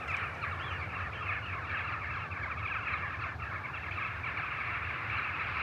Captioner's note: birds chatter